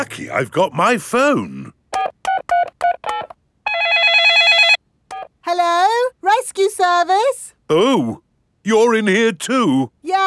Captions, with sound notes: Lucky I've got my phone! (DIALING) (CELL PHONE RINGING) Hello, rescue service. Oh. You're in here too.